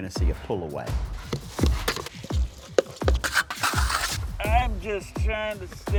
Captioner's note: metal scrapes; water pours